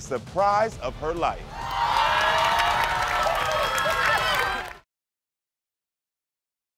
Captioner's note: audience applauding and cheering